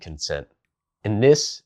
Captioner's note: beat